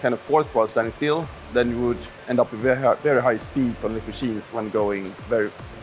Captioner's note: motors